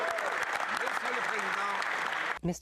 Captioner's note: speaking French